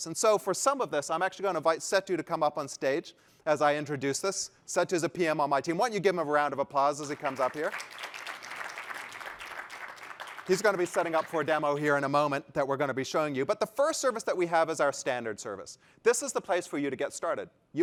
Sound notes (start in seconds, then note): 7.0 applause